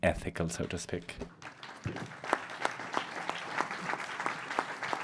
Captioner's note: audience applauds